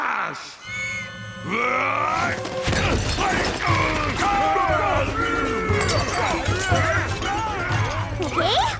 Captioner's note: crashing and growling